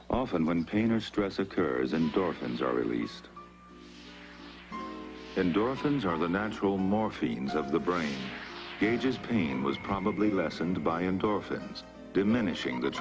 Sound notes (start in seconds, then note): none